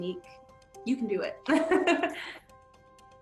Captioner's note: laughs; soft music playing